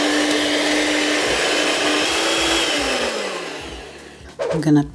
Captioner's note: cake mixer whirring